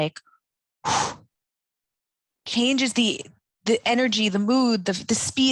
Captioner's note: exhales sharply